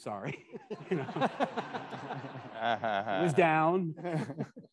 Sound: attendees laughing

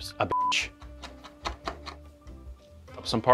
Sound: knife chopping

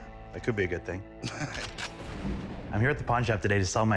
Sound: laughs

